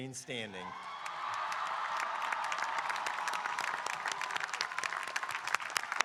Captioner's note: audience cheering and applauding